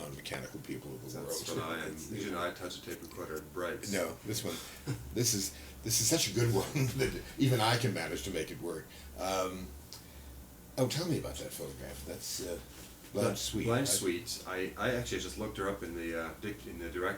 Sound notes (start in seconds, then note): 7.1 laughs